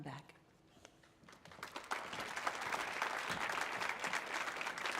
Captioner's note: audience applauding